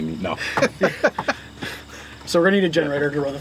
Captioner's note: laughs